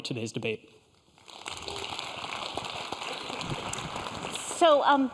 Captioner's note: applause